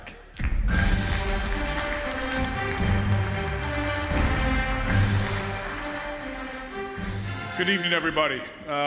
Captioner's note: music and applause